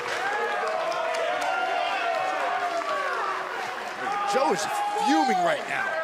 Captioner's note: crowd chatter